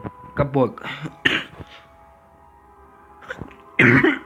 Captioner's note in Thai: ไอ